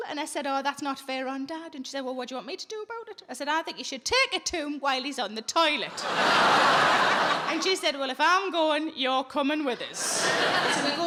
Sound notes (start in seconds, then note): 5.8 audience laughing